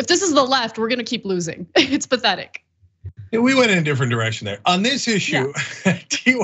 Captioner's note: laugh